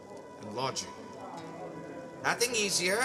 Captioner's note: chattering of other guests